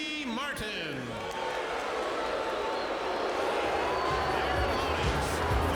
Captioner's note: audience jeering